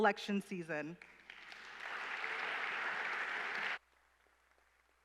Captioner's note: applause